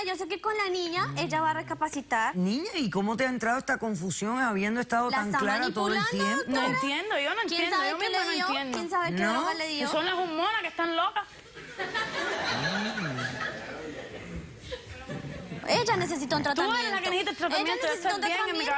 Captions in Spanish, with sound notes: - DOCTORA, YO SÉ QUE CON LA NIÑA ELLA VA A RECAPACITAR. - NIÑA, ¿Y CÓMO TE HA ENTRADO ESTA CONFUSIÓN, HABIENDO ESTANDO TAN CLARA TODO EL TIEMPO? - NO ENTIENDO, YO NO ENTIENDO, YO MISMA NO ENTIENDO. - ¿NO? - O SON LAS HORMONAS QUE ESTÁN LOCAS. [Risas del público] - ELLA NECESITA UN TRATAMIENTO. - TÚ ERES LA QUE NECESITA EL TRATAMIENTO.